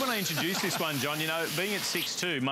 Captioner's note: laughter